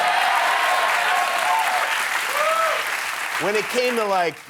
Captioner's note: applause